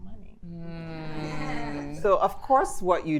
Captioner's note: attendees laughing